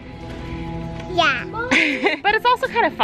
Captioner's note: laughs